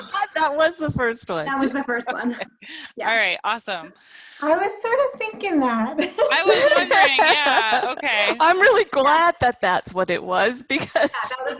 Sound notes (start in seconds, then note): 6.1 laughs